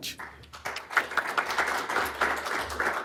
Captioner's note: applause